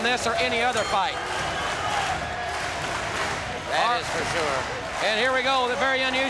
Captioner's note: applause